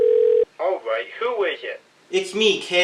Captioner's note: from phone